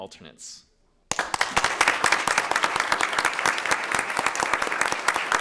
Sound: audience applauding

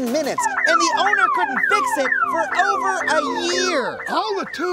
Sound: shouting

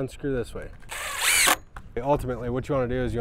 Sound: drill whirring

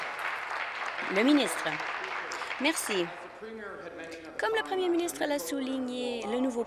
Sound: applause

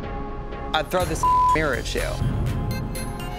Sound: beep

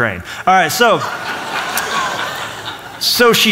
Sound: laughter

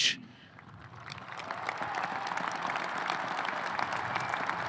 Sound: audience applauding

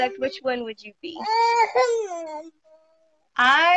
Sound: baby crying

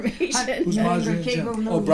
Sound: voiceover

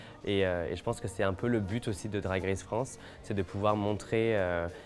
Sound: speaking French

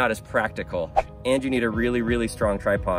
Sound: air whooshing

